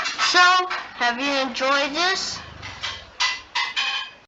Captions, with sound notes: so...have you enjoyed this? *plate noises*